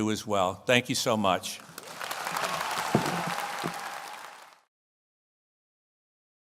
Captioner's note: audience applauds